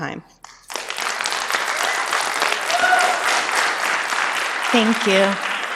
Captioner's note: applause